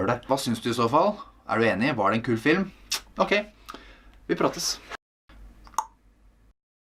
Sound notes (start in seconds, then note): 5.6 clicks tongue